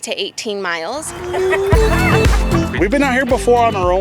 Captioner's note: laughing